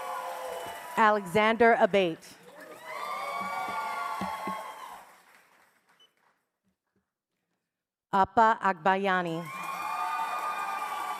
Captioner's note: cheers and applause